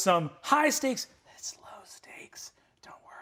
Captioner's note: whispers